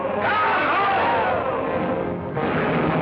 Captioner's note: cheering